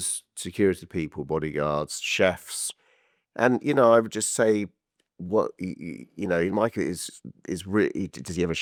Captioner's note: stuttering